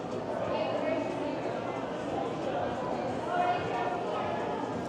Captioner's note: people chattering